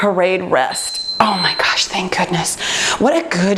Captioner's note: beeping